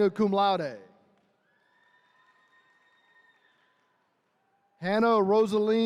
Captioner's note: attendees cheering